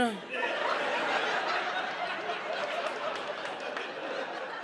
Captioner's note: audience laughs